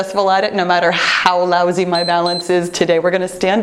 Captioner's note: timer beeps